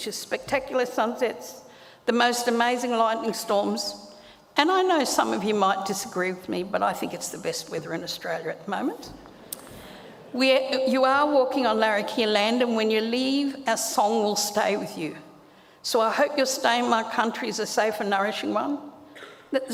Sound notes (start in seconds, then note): 9.6 audience laughs